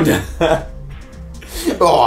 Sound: laughter

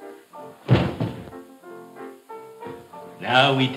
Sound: head thumps

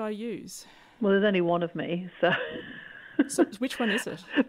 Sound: laughs

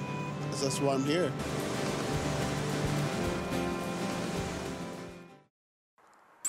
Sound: water rushing

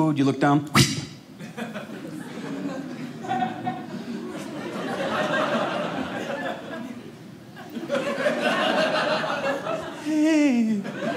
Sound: audience laughing

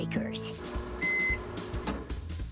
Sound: beeping

